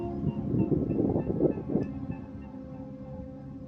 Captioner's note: swan sound